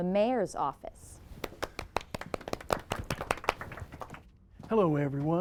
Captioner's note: people applaud